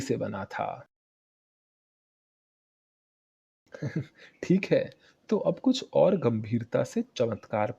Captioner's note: laughter